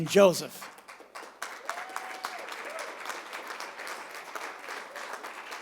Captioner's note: applause